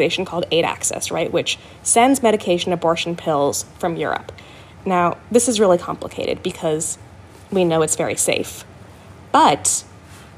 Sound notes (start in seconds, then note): none